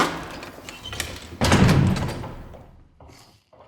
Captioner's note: door closing